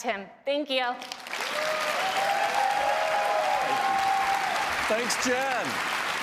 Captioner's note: applause